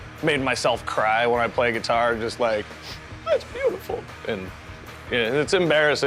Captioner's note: sniff